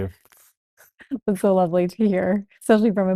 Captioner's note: laughs